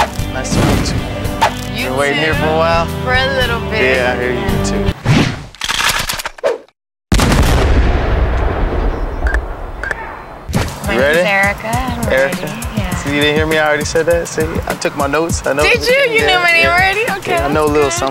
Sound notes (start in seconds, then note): 5.5 guns cocking and firing